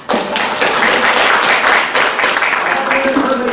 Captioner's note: applause